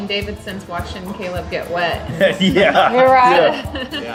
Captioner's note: laughs